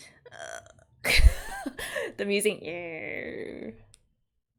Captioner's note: laughs